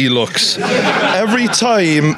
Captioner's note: audience laughs